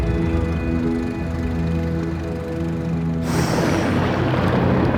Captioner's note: boat engine humming